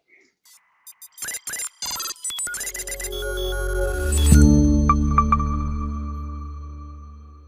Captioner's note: techy trills; etheric tone